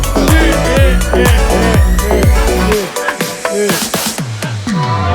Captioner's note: slow motion laughing